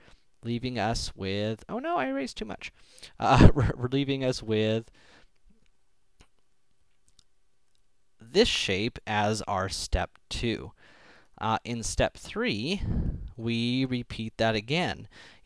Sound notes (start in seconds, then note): 3.3 laughing